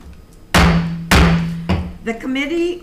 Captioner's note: gavel slams the block